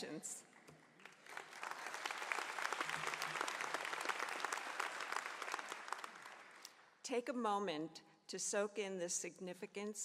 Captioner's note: applause